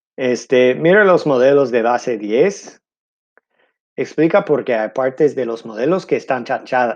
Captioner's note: speaking in foreign language